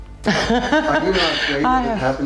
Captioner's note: laughs